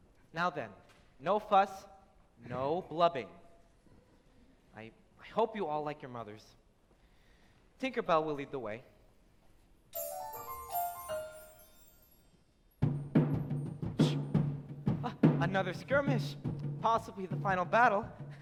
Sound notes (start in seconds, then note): 9.9 Tinker Bell chimes; 12.9 war drums are pounded